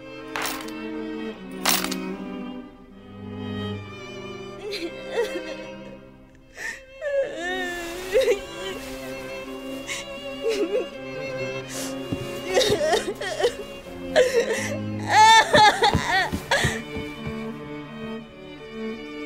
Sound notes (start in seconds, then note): 0.3 object falling to the ground; 3.9 crying